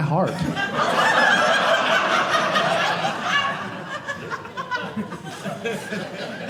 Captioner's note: audience laughing